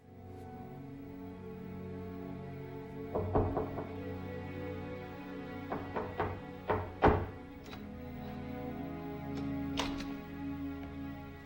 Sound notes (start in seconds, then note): 0.3 somber music; 3.1 door knocking